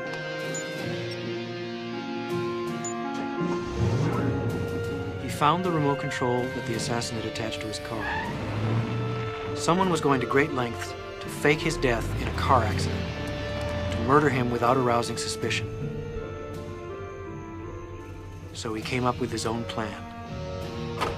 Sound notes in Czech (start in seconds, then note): 0.0 Pípnutí; 2.5 Motor startuje; 2.6 Pípnutí